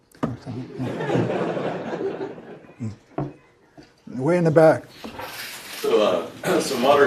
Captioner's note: laugh